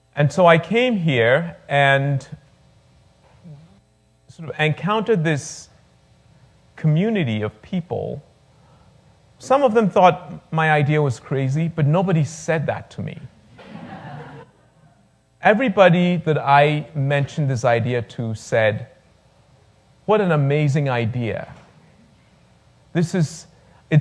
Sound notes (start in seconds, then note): 13.5 laughter